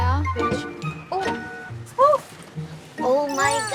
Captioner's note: door opens